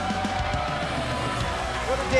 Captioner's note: cheers & applause